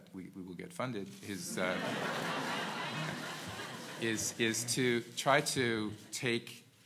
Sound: laugh

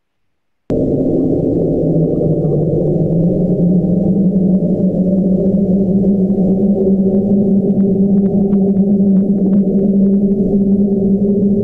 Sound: ominous wind

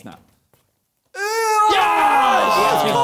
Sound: both shouting

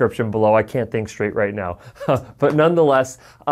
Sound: chuckles

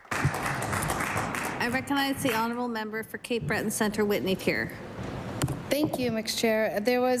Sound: applause

